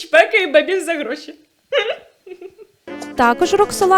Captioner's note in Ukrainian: сміється